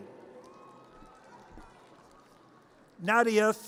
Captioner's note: audience cheers